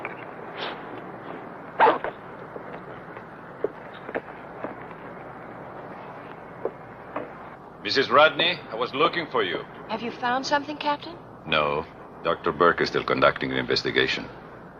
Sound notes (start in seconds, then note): 1.7 zipper whirring; 7.1 footsteps receding